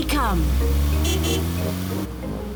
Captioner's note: car horn honks